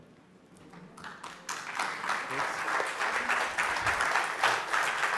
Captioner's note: applause